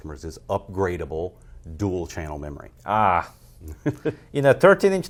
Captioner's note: laughs